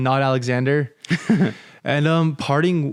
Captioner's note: chuckles